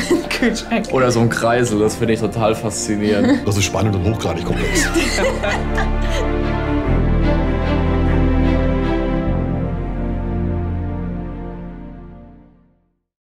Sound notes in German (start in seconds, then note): 0.0 lacht; 4.5 Lachen